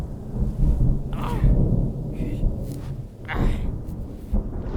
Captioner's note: grunts and groans